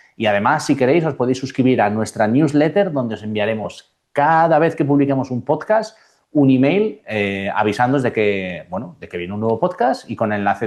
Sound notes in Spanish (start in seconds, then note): none